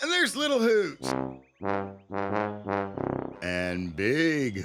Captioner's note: hooting